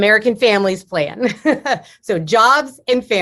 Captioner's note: laughs